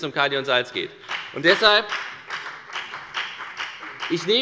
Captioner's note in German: Beifall bei der FDP